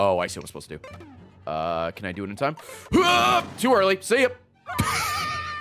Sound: laughs

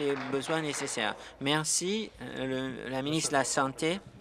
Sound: applause

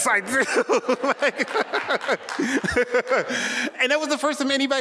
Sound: laughing

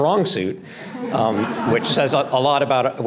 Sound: audience laughter

